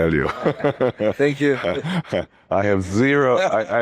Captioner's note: risos